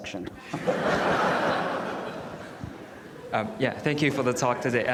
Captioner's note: audience laughs